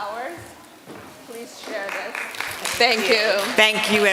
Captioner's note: applause